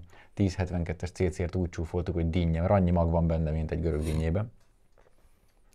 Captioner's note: pips